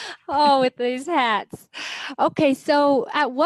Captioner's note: laughs